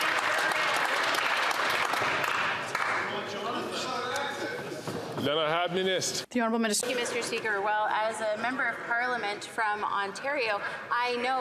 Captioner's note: some Applause